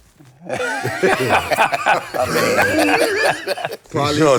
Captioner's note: laughs